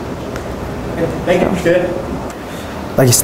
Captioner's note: voiceover